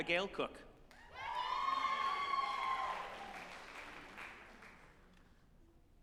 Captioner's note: group applauding and cheering